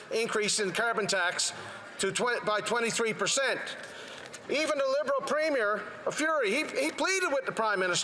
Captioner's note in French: voix de l'interprète